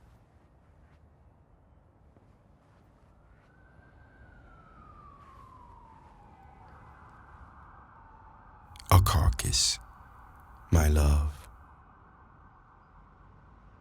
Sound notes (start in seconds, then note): 4.1 siren blaring